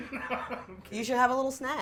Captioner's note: all laughing